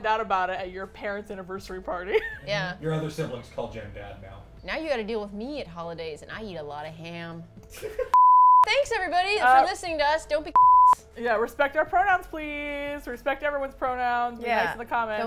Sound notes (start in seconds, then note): 7.7 laugh